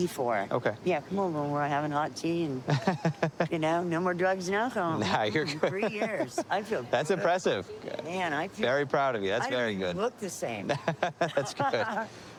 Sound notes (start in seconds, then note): 2.6 laughs; 10.6 laughing